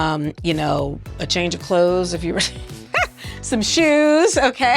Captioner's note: laughing